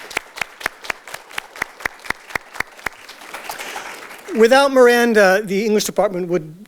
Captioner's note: audience Applause